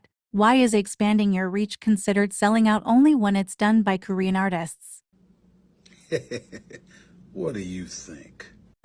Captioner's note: laughs